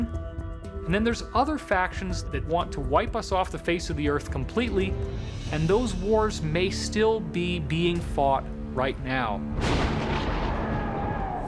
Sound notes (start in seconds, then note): 9.5 thunder crashes